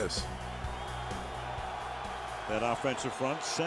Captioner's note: crowd cheers